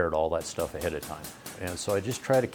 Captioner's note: machine thudding